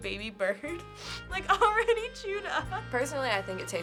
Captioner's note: laughs